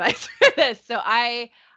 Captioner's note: chuckling